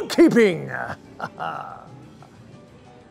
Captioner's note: chuckle